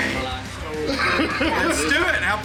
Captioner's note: laughing